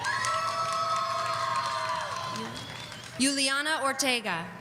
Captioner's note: audience cheering